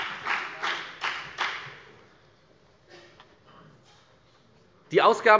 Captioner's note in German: Beifall bei der FDP